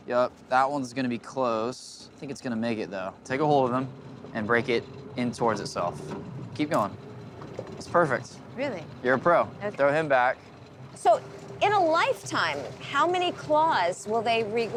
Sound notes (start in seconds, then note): 7.3 snap